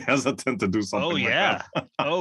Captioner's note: lauh